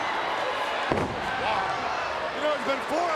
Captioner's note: Hulk thuds